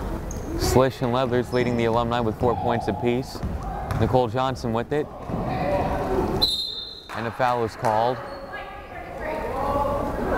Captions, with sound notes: Sligh and Leathers leading the alumni with four points apiece. Nicole Johnson with it, (whistle blows) and a foul is called.